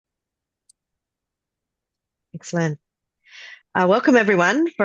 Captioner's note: Australian accent